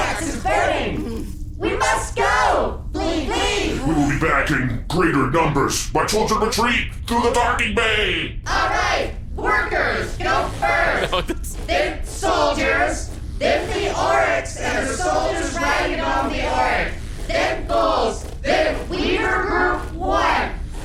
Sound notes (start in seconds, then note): 0.0 groans; 7.4 sound of many marching feet again; 9.2 buzzing noise of wings; 10.5 laughing